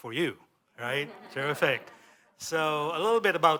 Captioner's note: laughter